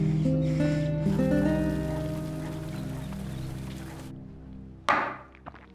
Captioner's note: fountain streaming; thud